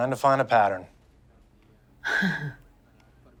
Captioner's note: sighs